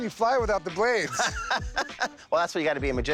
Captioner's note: laughs